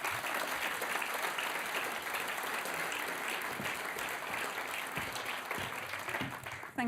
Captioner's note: applause